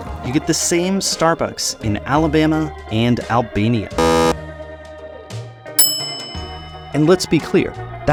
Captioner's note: buzzer, followed by dinging bell